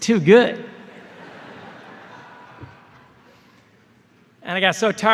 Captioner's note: laughter